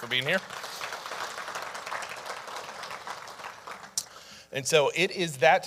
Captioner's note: audience applauding